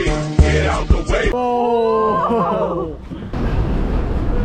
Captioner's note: happily